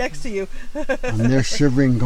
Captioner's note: giggling